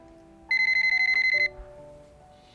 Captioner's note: phone ringing